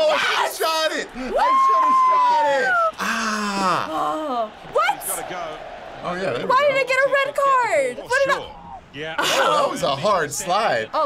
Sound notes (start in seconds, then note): 2.9 sighing; 3.0 groaning